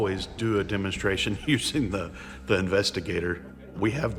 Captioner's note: chuckling